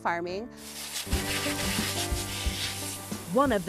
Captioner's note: water spraying